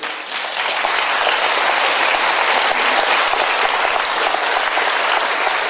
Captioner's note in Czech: potlesk